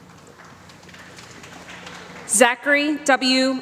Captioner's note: applause